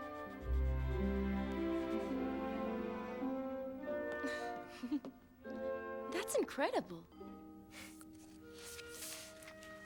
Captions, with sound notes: (Jessica giggles) - That's incredible!